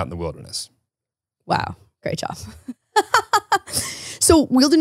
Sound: laughs

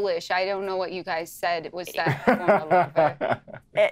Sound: speaking faintly

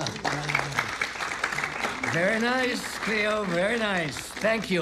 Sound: applause; laughs

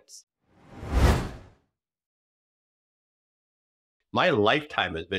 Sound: whooshing sound effect

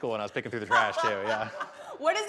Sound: laughing

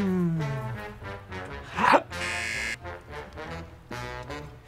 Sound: buzzer; gasps; buzzer

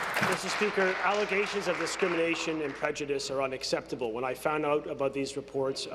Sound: applause

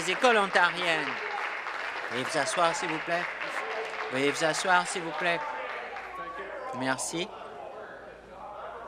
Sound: applause

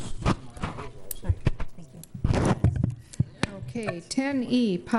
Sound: microphone static

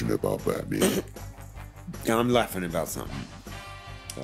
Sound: snickers

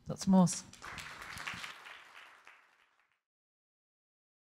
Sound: audience clapping

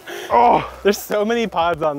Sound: laughing; grunts

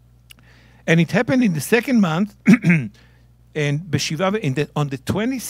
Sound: speaking in Hebrew

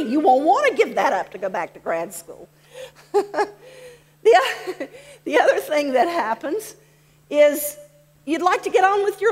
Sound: laughs

